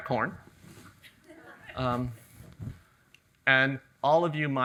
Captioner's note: audience chuckles